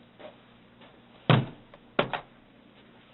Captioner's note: thump